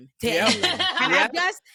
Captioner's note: laughing